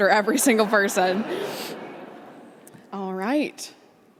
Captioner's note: audience laughing